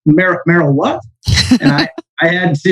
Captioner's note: laughs